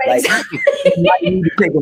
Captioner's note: all laughing